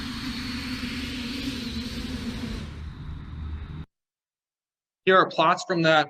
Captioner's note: blades decelerate